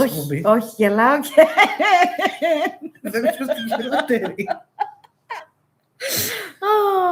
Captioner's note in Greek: γέλια